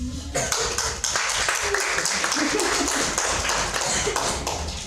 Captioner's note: audience clapping